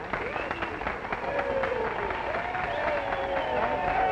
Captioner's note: applause